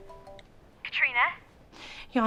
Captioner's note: phone rings